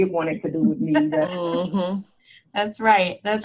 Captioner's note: panelists laughing